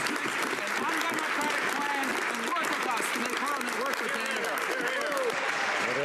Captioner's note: some Applause